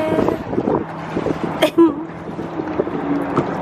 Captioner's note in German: lachen